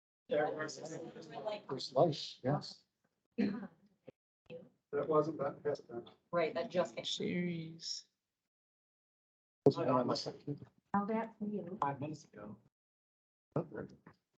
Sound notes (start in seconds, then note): 9.7 indistinct chatter